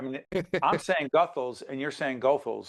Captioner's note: chuckling